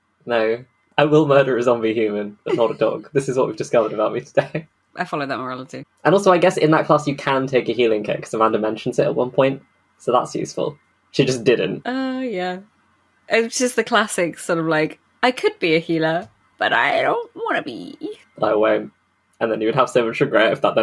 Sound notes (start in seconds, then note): 1.0 laughing; 1.0 laughs